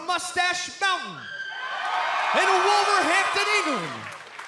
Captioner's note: cheers and applause